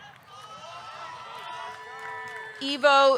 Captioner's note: audience cheering; audience clapping